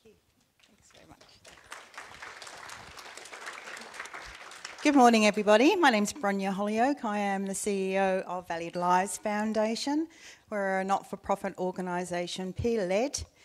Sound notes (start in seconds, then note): 0.6 audience applauding